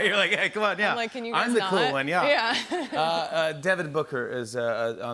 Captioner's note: laughs